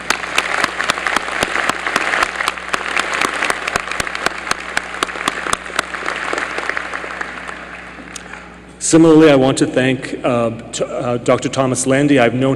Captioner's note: applause